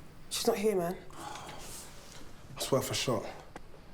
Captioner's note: Tyler sighs